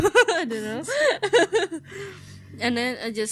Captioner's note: ngehehehehehe